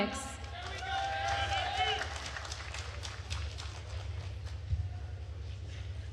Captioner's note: attendees cheering and applauding